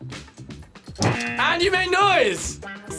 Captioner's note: buzzer